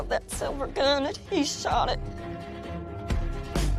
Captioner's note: sobbing